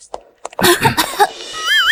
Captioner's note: cough, cough